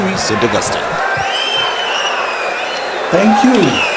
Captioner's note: wild applause and cheering for 22 seconds